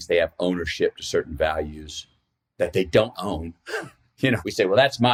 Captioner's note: laughs